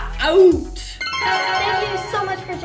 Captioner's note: twinkling